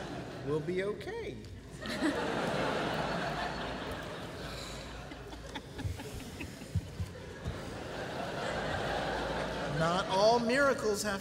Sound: laughter

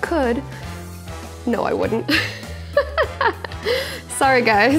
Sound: laughs

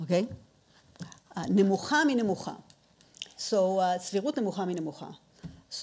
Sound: speaking in foreign language

